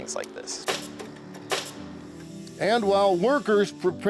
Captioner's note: nail gun bangs